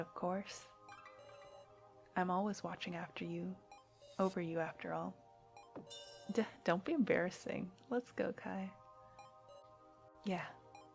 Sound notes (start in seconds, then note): none